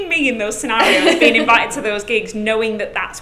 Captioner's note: laughs